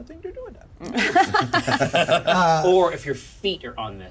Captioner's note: laughs